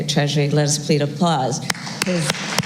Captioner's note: applause